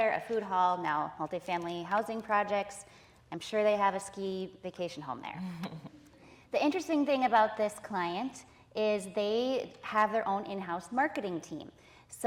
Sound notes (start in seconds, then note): 5.4 audience laughing